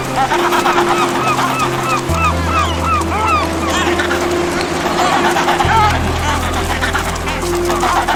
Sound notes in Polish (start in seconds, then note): 1.0 krzyk mew; 4.9 terkotanie pingwinów